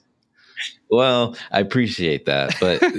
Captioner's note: laughing